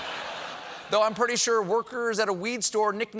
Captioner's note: laughter